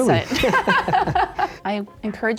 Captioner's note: laughs